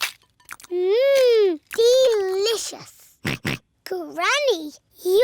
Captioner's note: george oinks